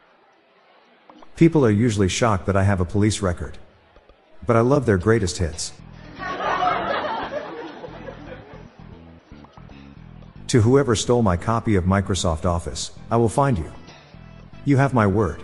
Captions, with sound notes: People are usually shocked that I have a police record. But I love their greatest hits. [LAUGHTER] To whoever stole my copy of Microsoft office, I will find you. You have my Word.